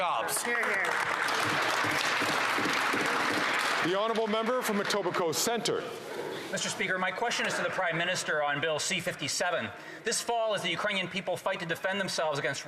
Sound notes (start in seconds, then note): 3.4 some Applause